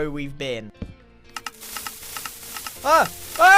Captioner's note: redstone ticks and TNT hisses